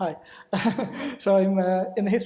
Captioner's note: laughs